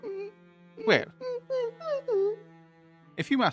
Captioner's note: incredulous whimpers